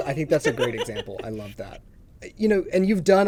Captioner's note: laughs